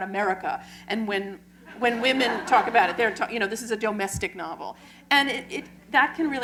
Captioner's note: laughter